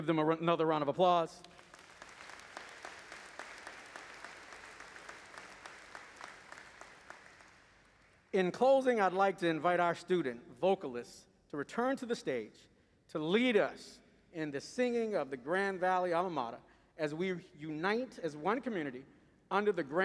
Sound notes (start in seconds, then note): 6.7 applause